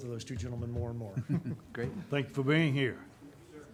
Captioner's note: chuckling